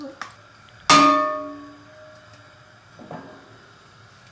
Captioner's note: pan clanging